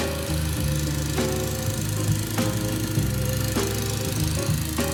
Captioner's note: lawnmower running; light music